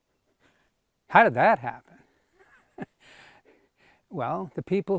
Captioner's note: laughs